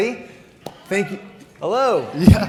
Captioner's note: audience cheers